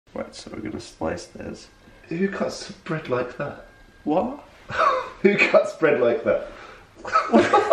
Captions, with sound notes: Well so we're gonna slice this- did you cut the bread like that? What-who cuts bread like that >:I *Laughing*